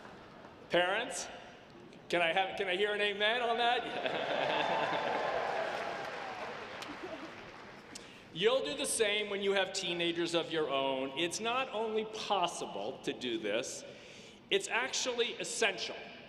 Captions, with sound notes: Parents, can I hear an amen on that? (audience laughs) You'll do the same when you have teenagers of your own. It's not only possible to do this, it's actually essential.